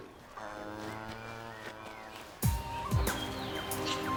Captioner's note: cows mooing